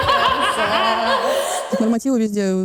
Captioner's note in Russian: демонический смех